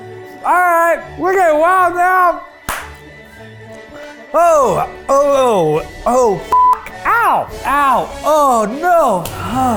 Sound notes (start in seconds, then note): 2.6 claps; 6.5 beep